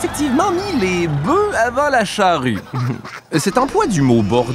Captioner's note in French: rire